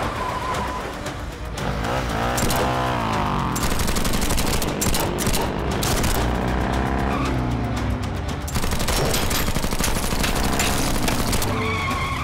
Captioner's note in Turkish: Silah sesi